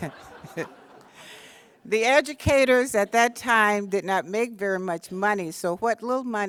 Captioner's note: laughter